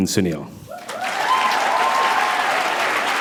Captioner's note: applause